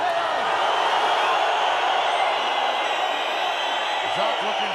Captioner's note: applause